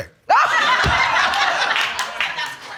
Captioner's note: audience laughing